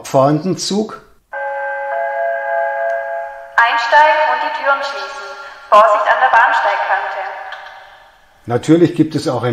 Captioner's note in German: Gong